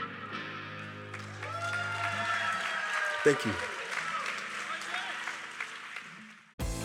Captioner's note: audience applause